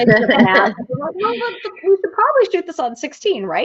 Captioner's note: laughing